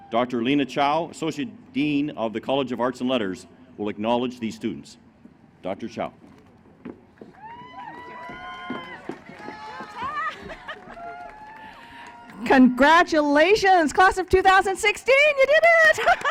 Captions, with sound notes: Dr. Lena Chow, Associate Dean of the College of Arts and Letters will acknowledge these students. Dr. Chow. [ Applause ] >> Congratulations class of 2016, you did it.